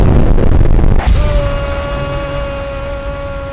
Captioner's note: screaming Noises